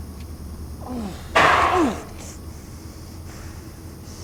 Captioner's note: Mark gasps; air bag pops; Mark panting